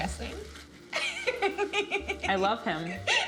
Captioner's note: laughs